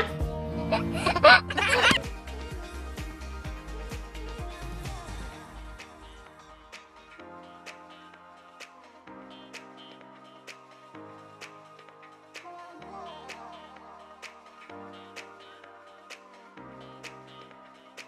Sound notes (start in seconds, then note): 0.6 giggles; 3.7 upbeat music